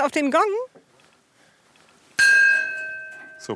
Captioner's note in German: Gong erklingt